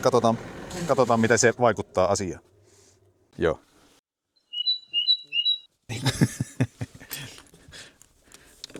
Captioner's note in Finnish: naurua